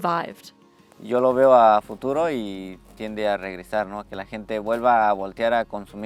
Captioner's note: speaks in a foreign language